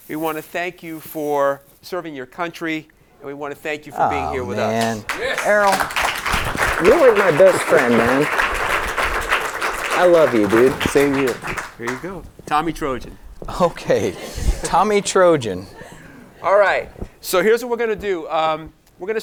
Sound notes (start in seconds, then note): 4.7 audience applauding; 7.9 audience applauding